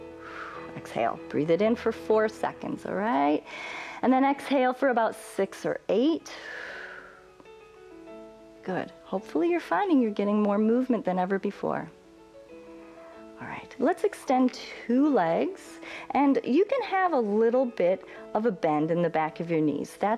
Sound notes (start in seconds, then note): 7.0 exhales